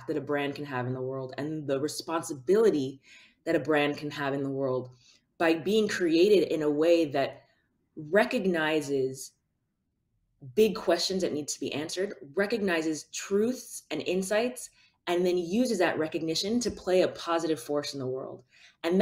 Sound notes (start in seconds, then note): none